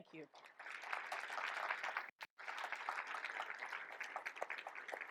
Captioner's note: audience applauds